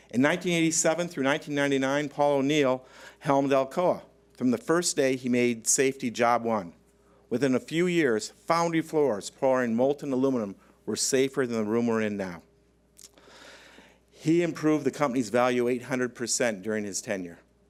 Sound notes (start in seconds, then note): none